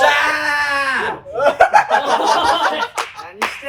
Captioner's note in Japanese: 笑い声